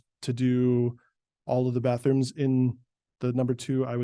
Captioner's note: none